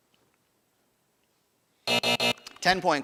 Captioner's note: buzzer buzzing